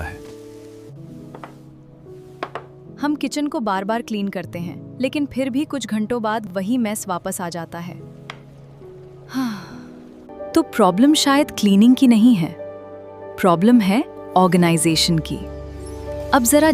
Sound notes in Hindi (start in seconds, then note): 9.5 गहरी सांस लेने की आवाज़